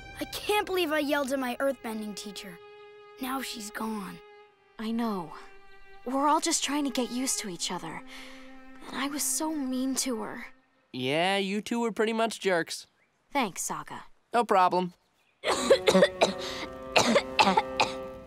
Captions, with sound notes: I can't believe I yelled at my earth bending teacher. - Now she's gone. - I know. We're all just trying to get used to each other. And I was so mean to her. Yeah, your two were pretty much jerks. - Thanks, Sokka. - No problem. [coughing]